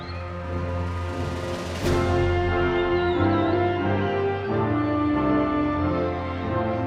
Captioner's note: crowd cheering